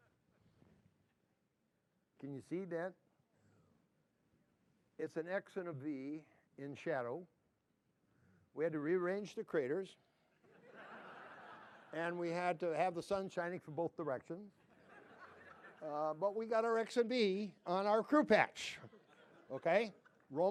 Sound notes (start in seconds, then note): 10.4 laughter; 14.6 laughter